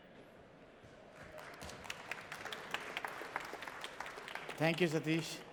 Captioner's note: applause